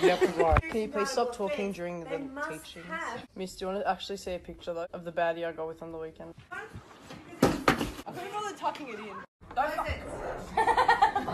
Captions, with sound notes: Could ya please stop talking during the... teachings.... Miss do ya actually wanna see a picture, though? Of the baddie I got with on the weekend? *chair crashing* I couldn't be bothered tucking it in. *chuckling*